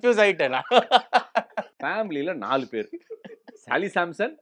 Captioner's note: laughter, exasperation, and laughter again